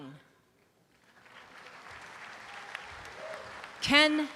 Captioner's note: audience applause